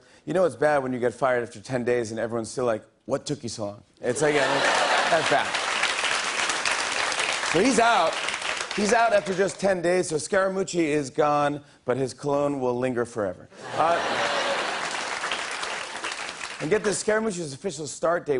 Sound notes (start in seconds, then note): 4.2 laughter and applause; 13.6 laughter